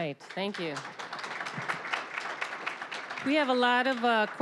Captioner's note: applause